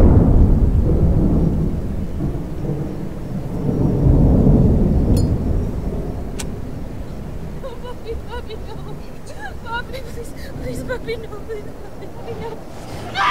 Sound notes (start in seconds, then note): 0.1 thunder rumbling; 6.3 lighter flicking